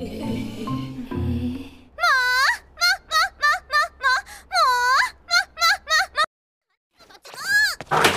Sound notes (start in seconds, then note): 2.1 laugh again